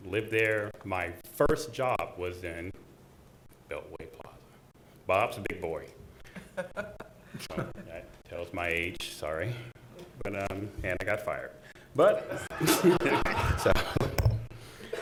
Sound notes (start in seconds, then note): 6.2 chuckling; 12.2 laughing